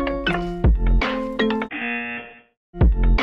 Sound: buzzer

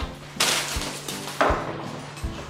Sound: lunch bag crumples

